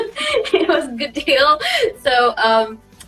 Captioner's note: laughs